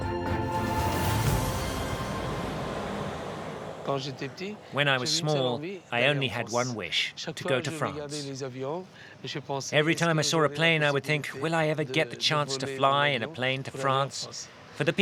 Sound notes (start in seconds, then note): 4.0 foreign language; 5.0 voiceover